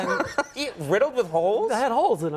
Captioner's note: Conan laughs